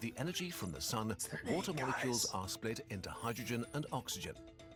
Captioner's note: whispering